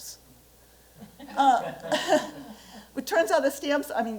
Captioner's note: laughter